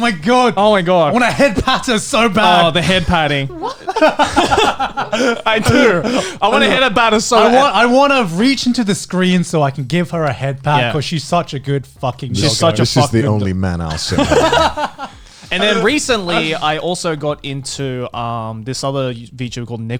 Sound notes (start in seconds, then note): 3.8 laughs; 13.8 laughs